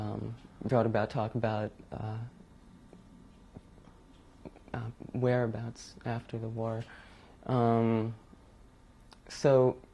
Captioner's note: pauses for 3 seconds